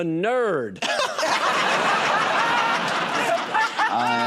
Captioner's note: laughter; applause